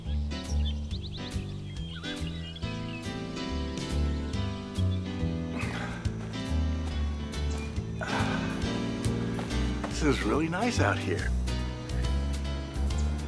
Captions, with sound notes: (birds chirping) (Phil sighs) This is really nice out here.